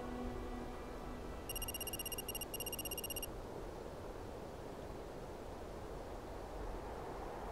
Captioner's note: wind gusting; text whirring